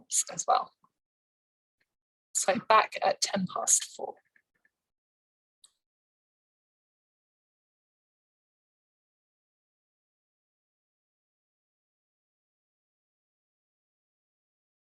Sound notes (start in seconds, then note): 3.7 silence for 5 mins